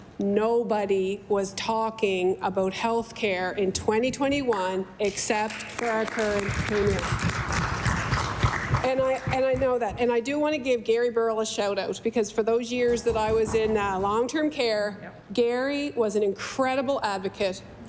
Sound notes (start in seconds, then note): 9.8 applause